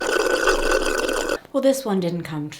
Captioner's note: sipping